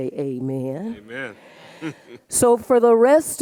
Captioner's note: laughs